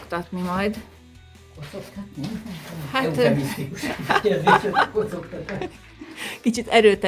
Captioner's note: laughter